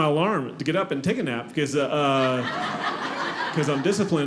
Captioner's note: audience laughing